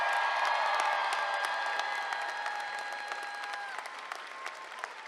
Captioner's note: applause